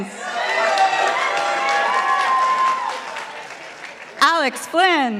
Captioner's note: participants applauding